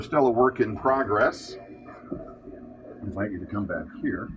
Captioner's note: computer, machinery whirring sounds